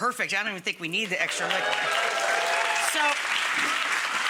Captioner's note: audience cheers and applauds